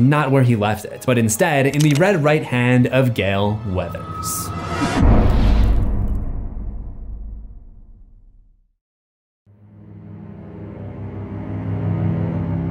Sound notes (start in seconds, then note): 4.5 impact; 9.5 brooding music